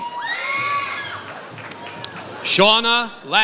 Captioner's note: audience cheers